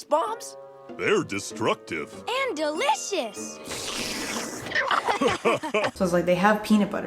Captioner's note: laughter